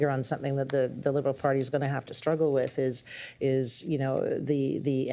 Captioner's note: none